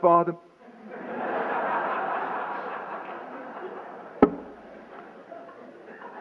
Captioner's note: laughter